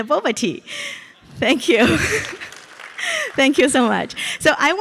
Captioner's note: audience applauds